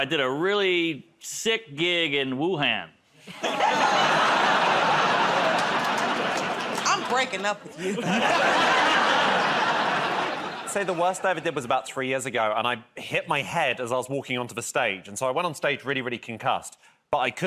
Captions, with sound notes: -About two years ago, I did a really sick gig in Wuhan. [ Laughter, groaning ] -I'm breaking up with you. [ Laughter ] -I'd say the worst I ever did was about three years ago, and I hit my head as I was walking onto the stage, and so I went on stage really, really concussed.